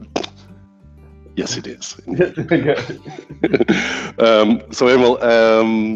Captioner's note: both laughing